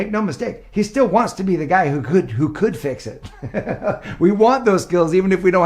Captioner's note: laughing